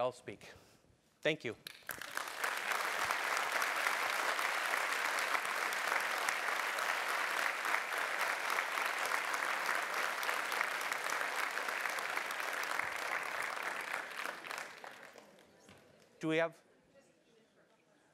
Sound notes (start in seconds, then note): 1.6 applause